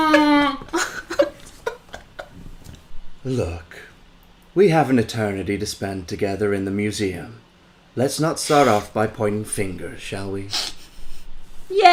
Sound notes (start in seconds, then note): 1.7 laughter